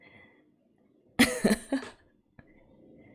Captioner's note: laughs